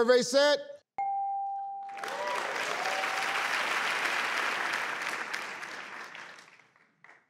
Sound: bell dings; audience applauds

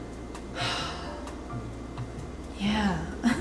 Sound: peaceful jazz music; sighs

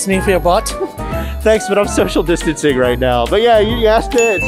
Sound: laughing

